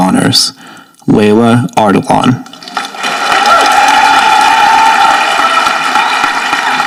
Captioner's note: audience applauding